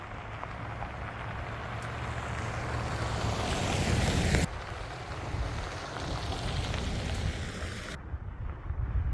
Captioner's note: wind howling